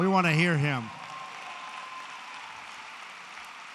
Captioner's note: applause